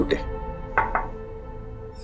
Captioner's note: knocking on the door